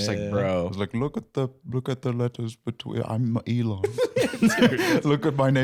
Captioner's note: south African accent